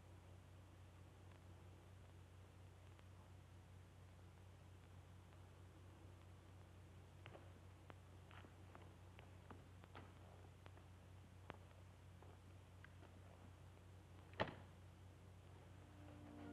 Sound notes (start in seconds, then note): none